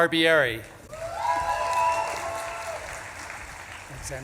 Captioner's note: audience claps and cheers